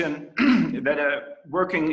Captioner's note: clearing throat